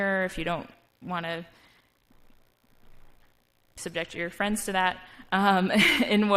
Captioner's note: laugh